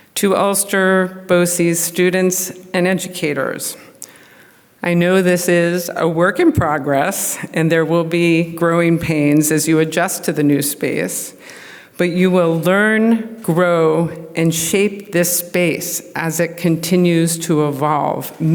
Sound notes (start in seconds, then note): none